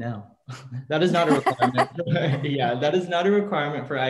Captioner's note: laughing